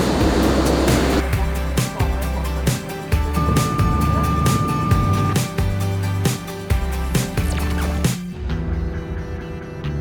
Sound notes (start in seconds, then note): 0.0 exhaust fans blowing; 3.1 trucks beeping